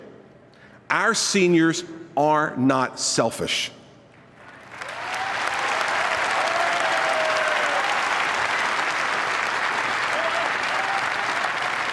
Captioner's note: delayed applause